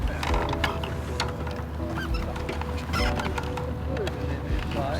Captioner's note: wheelchair creaking